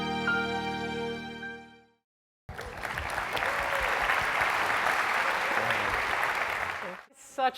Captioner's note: applause